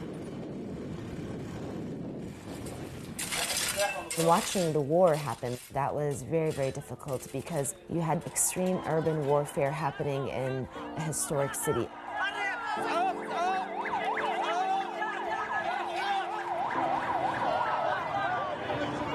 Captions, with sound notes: Watching the war happen, that was very, very difficult because you had extreme urban warfare happening in a historic city. [people shouting] [sirens]